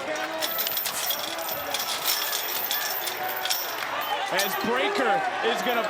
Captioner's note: chain rattling